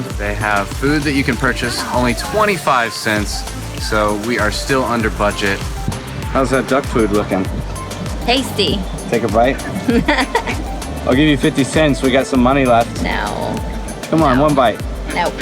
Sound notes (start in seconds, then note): 9.4 laughs